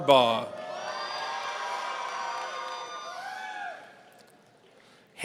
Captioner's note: audience cheering